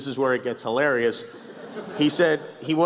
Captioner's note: laughs